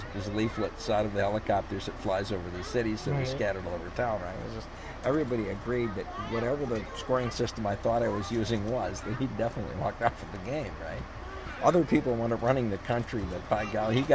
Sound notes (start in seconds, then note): 8.4 laughs